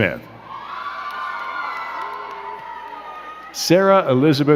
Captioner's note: crowd cheering and clapping